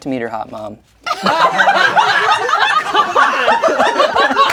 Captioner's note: crowd laughing